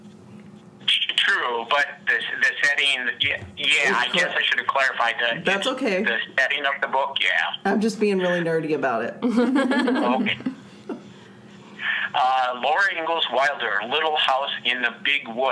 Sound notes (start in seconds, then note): 9.3 laughs